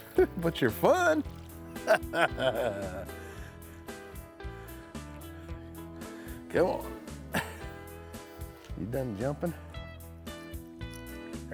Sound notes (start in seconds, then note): 1.6 chuckling